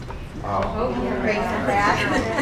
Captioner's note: audience Talking